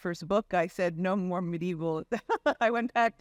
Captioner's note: laughs